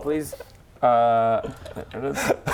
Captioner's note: proud laugh